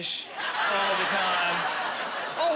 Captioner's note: laughing